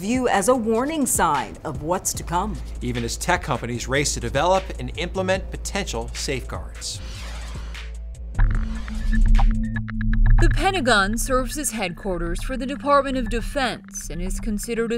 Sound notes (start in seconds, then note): 6.9 logo swooshing; 9.5 gentle foreboding music